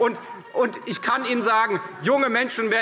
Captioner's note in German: Anhaltende Zurufe Freie Demokraten